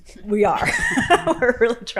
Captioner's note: laughing